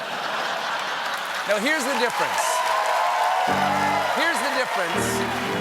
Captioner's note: laughter; cheers and applause; piano riff